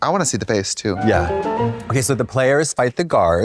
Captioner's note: bright chime